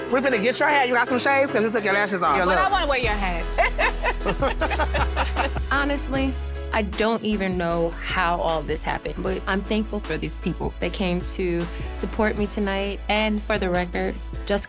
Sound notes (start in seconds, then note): 3.4 laughing